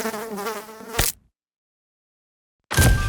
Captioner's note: fly buzzing; fly splatting; creepy music